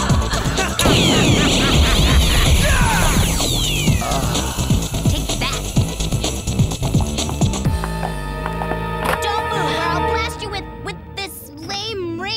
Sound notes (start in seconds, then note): 2.1 laughing